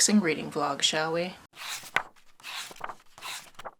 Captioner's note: pages turning